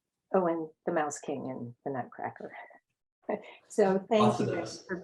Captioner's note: laughs